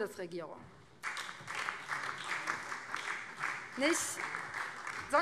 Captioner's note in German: Beifall BÜNDNIS 90/DIE GRÜNEN